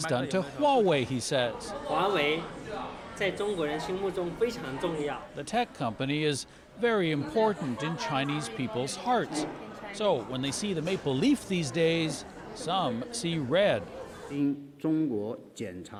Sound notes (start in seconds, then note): 1.4 speaking chinese; 3.7 speaking chinese